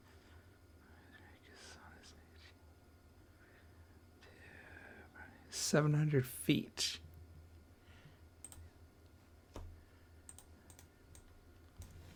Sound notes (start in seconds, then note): 0.0 silence